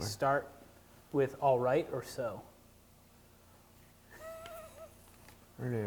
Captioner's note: laughing